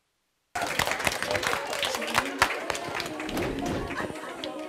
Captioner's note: audience applause